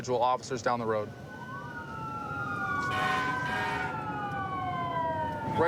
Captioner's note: emt sirens blaring